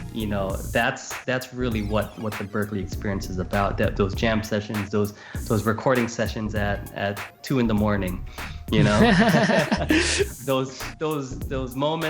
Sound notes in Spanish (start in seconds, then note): 8.8 Risas